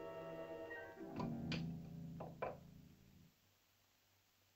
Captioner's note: dish clatters